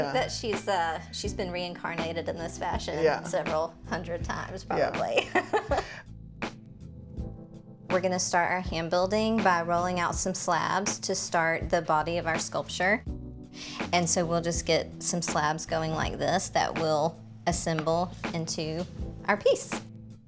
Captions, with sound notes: I think that she's been reincarnated in this fashion several hundred times probably. (chuckles) We're gonna start our hand building by rolling out some slabs to start the body of our sculpture. And so we'll just get some slabs going like this that will assemble into our piece.